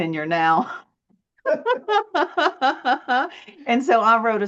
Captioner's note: laughs